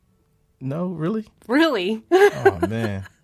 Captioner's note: laughs